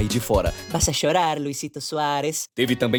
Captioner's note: Spanish